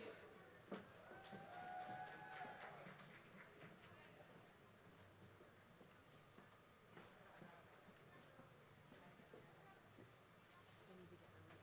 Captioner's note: applause